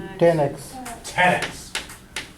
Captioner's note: voiceover